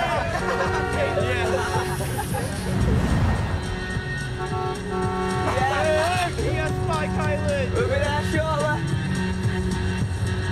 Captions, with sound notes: - [laughing] - Yes! [horn honking] Hey, hey, Spike Island! We'll be there shortly!